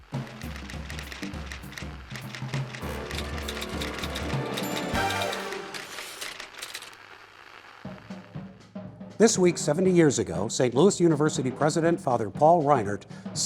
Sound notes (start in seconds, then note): 0.0 lively music; 4.3 typewriter typing